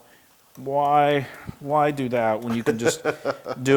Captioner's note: laugh